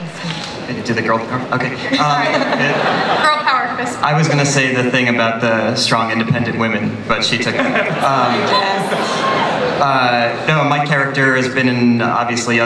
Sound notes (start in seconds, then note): 1.8 laughter